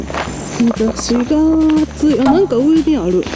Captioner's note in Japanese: 鼻歌